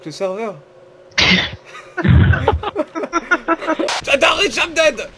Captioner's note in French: Rire